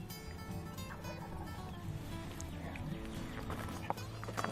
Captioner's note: turkey gobbles